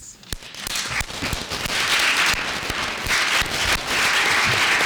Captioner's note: applause